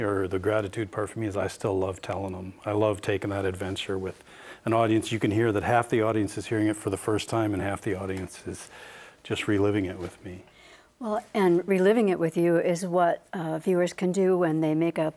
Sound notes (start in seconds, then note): none